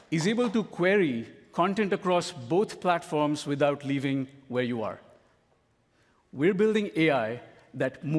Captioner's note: applause